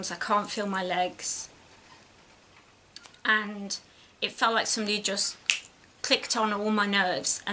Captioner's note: clicks fingers